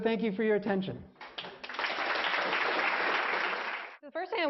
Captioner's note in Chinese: applause; 鼓掌